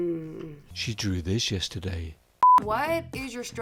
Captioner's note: beep